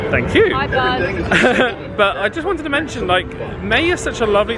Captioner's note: laughs